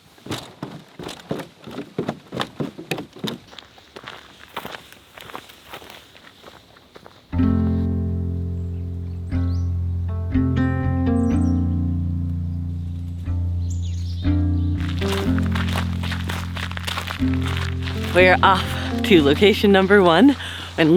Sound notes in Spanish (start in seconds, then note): 0.0 pasos; 3.6 hojas crujiendo; 7.5 música tranquila; 14.8 tierra crujiendo